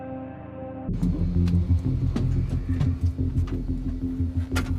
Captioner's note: door opens; door closes